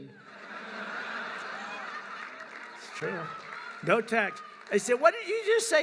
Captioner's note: laughter